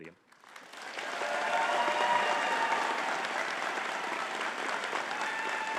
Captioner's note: audience cheering and clapping